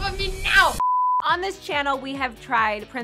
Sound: beep

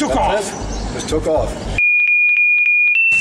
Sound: high pitched beeps

